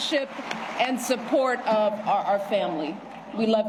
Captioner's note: applause